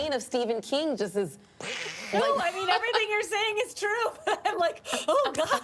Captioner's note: laughter